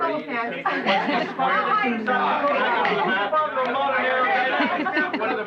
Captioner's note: chattering